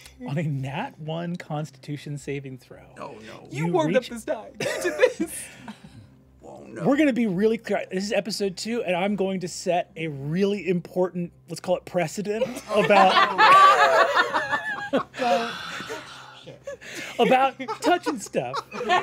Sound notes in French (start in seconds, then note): 12.4 rires